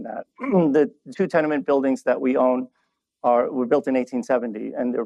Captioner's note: laughs; clears throat